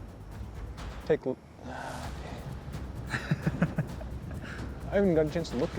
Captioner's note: sigh